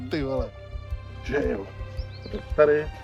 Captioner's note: reading in English